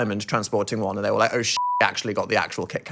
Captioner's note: beep